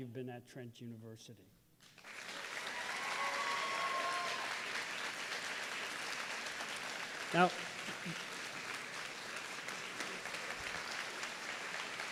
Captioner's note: applause